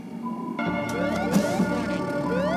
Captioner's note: alarm ringing